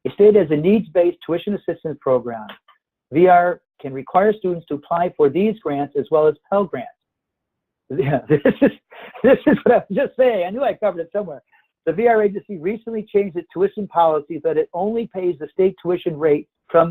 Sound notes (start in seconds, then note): 8.0 laughing